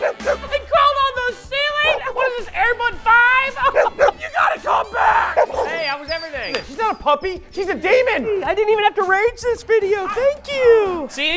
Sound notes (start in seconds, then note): 3.6 barking